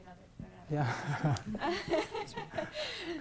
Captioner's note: laughing